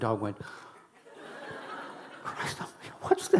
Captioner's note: audience laughing